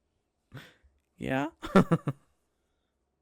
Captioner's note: laughs